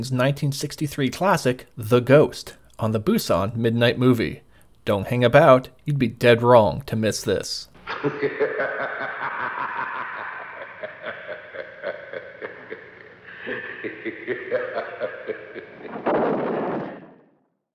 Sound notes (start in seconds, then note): 7.8 laughter; 15.8 thunder